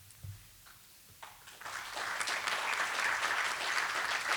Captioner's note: applause